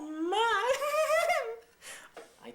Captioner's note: giggles